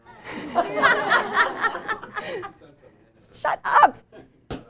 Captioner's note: laughter